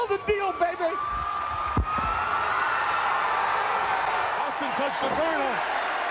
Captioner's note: crowd cheering